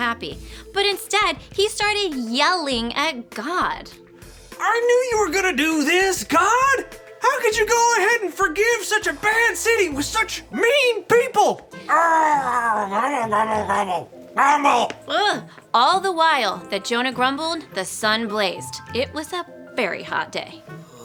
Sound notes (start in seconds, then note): 11.8 Jonah grumbling